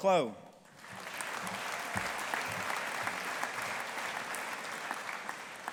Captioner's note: audience applauding